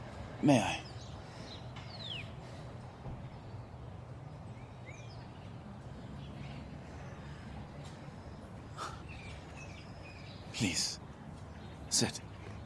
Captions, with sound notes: May I? [scoffs] Please... sit.